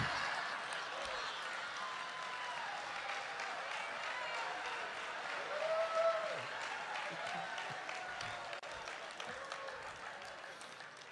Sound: congregation laughing

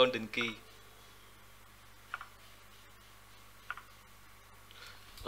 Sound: death silence

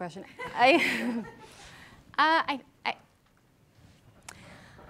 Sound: audience laughing

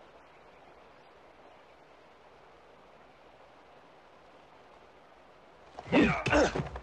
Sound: birds chirping; water running

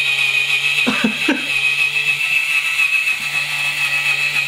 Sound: laughing

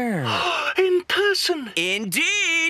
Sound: gasp

